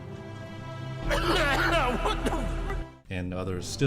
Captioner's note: coughing